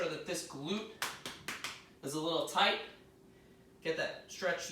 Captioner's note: tapping sound